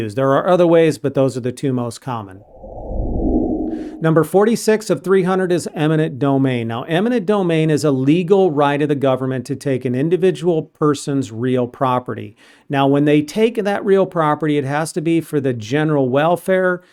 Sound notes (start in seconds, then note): 2.3 frame whooshing